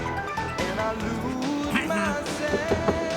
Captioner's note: clears throat